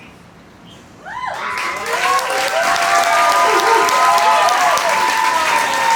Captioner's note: audience cheers and applauds